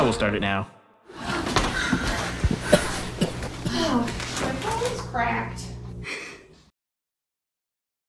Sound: ensemble grumbling

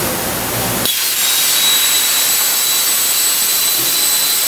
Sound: machine whirs; cutter screeches

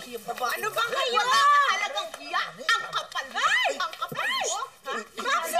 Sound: Diane shrieks

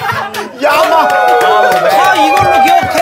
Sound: studio cheering with the advanced terms

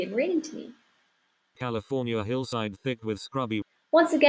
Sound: computerized voice

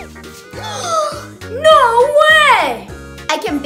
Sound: gasping

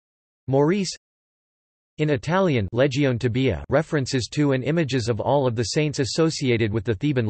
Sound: in Italian

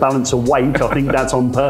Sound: chuckles

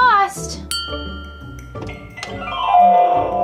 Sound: bell dings; harp glissando

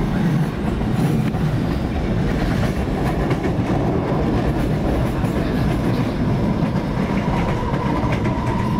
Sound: train clattering / crossing track

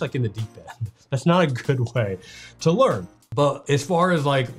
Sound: chuckles

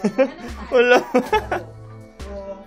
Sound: laughs

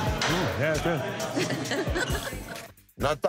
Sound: women laugh

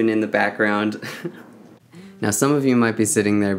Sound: laughs

